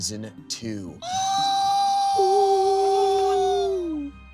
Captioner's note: all cheering